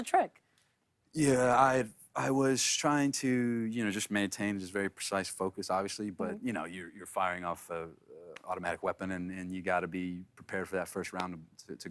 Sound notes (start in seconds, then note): none